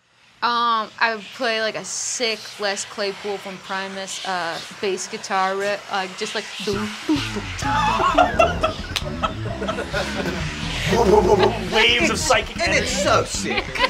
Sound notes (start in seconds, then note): 6.8 laughing; 7.0 bass riffing